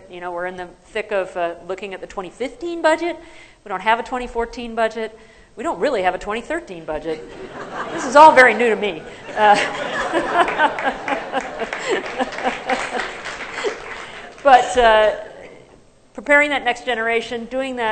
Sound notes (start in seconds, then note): 7.1 laughter; 9.8 applause; 10.6 laughter